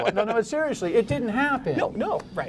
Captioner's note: laughter